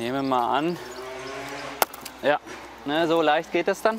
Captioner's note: crack